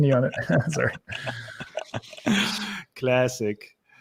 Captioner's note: all chuckling